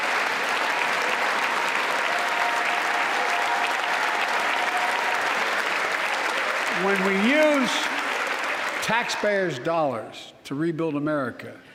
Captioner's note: applause